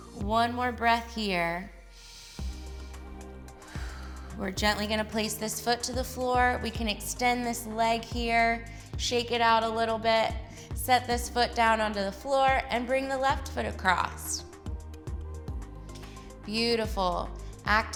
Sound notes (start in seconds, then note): 2.0 inhales; 3.8 exhales